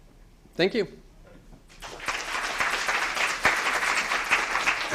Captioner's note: applause